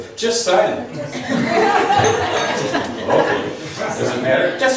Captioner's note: laughs